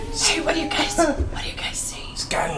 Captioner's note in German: singt; flüstert